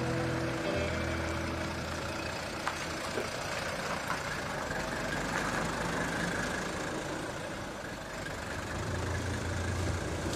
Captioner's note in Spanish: Sonido avance del coche